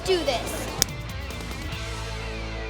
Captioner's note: hands slap; upbeat rock music plays